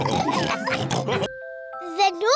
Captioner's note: all continue laughing